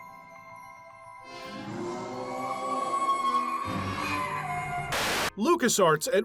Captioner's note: monster roaring